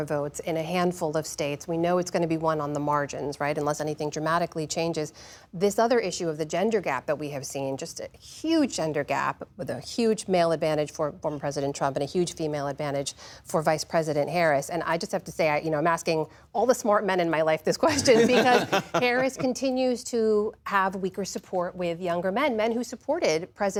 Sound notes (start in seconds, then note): 17.8 laughter